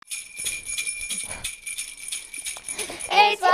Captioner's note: bells start jingling